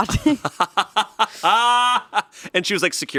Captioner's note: laughing